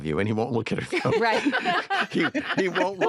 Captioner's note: all laugh